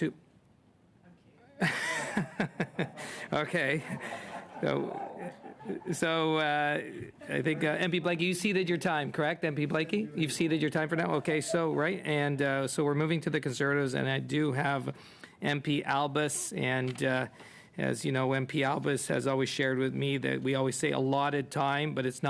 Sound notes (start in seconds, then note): 5.8 laughter